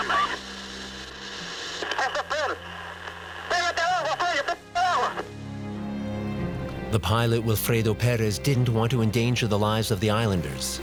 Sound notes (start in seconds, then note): 1.9 yelling in panic